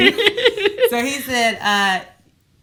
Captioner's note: laughs